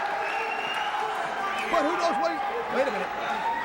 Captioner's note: crowd cheering